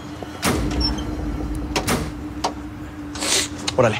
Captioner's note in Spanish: Sonidos al abrir las puertas